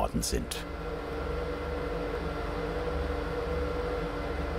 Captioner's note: machine roaring in the background